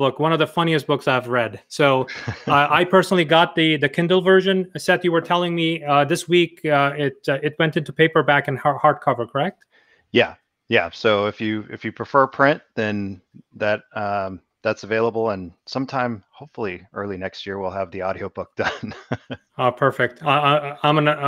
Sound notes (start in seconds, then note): 18.5 laughs